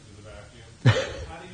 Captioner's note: chuckling